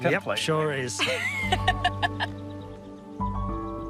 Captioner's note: all laugh